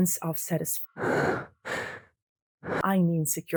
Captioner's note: Caleb's classic breathhhhhthing